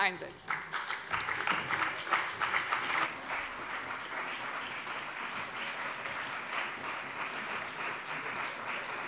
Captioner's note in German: Beifall bei dem BÜNDNIS 90/DIE GRÜNEN und der CDU